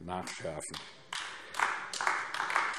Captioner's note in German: Beifall AfD